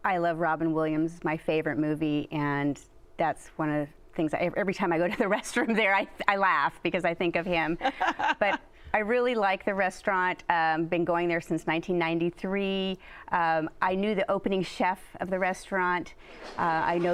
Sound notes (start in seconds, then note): 7.8 laughs